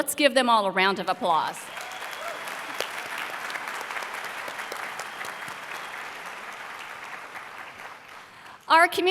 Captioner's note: applause